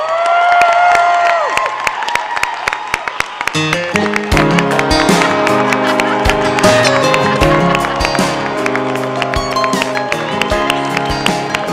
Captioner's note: applause